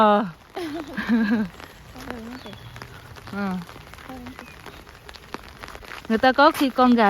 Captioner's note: sound of rain